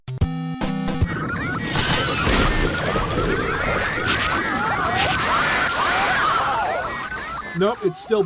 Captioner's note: revenge of the worst bit-crushed shrieking sounds ever